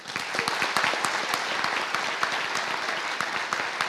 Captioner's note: applause